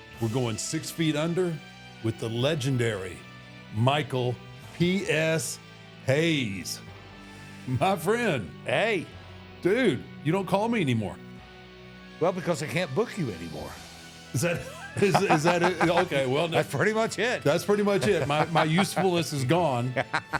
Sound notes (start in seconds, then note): 14.3 The Undertaker stammers and laughs; 14.4 Michael laughs